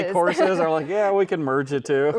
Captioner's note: chuckling